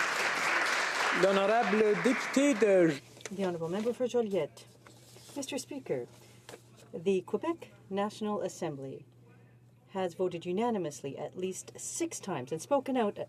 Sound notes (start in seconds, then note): 3.4 some Applause